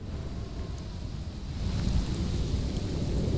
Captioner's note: wind blowing